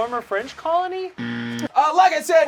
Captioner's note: loud buzzing